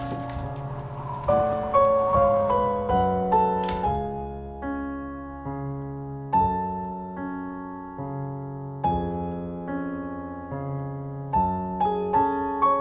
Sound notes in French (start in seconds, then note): 0.0 vent qui souffle; 2.9 porte qui se referme